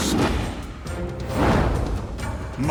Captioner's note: smoke whooshing